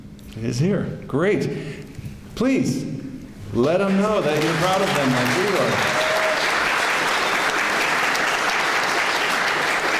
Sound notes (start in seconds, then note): 3.6 clapping